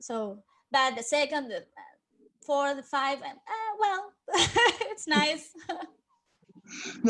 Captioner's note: laughs